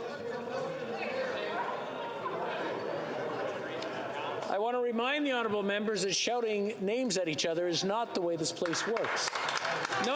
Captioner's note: yelling